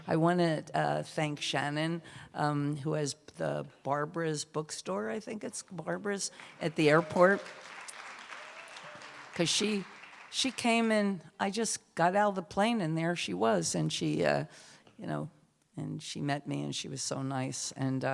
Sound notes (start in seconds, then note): 9.4 applause